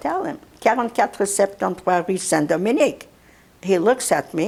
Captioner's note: non-english